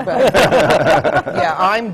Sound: laughter

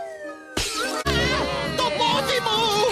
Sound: screaming

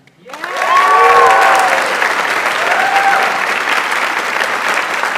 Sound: audience applauds

